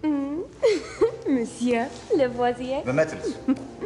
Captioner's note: <i> giggles</i>